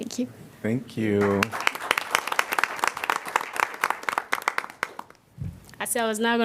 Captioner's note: applause